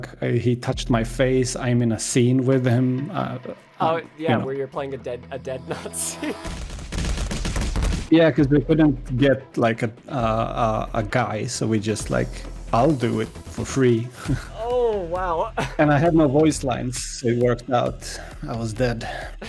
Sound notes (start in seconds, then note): 6.4 source engine ragdoll SFX; 13.9 short laugh; 14.1 laugh/gasp